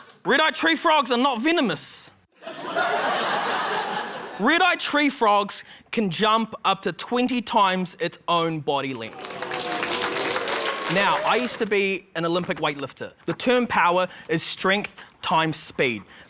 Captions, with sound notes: Red-eyed tree frogs are not venomous. (LAUGHTER) Red-eyed tree frogs can jump up to 20 times its own body length. (APPLAUSE) Now, I used to be an Olympic weightlifter. The term 'power' is strength times speed.